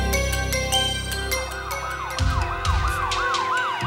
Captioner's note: sirens blaring